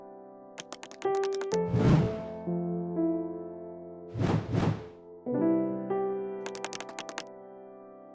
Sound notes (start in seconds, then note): 1.6 whoosh; 4.1 whoosh, whoosh